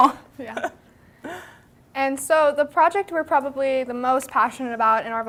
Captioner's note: laughter